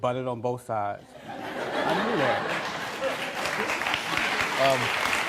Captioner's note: audience laughing, applauding